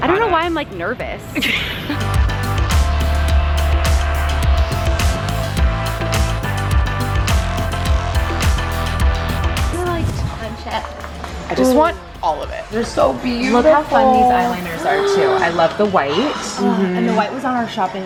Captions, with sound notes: - I don't know why I'm like nervous. (laughing) I just wanna like touch it. - I just want all of it. There so beautiful. - Look how fun these eye liners are too. I love the white. - Mm-hmm. - And the white was on our shopping list.